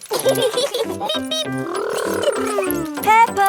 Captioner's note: both laughing